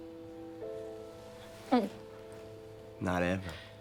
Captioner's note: dramatic orchestral music; gulps